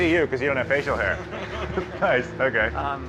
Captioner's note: laughter